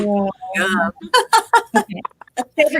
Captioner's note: laughs